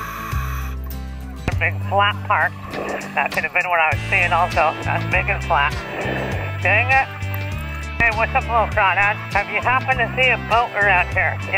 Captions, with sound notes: - Here's a big flat part, that could have been what I was seeing also, that's big and flat. (beep) it! Aye what's up we're a little crowded. Have you happened to see a boat around here?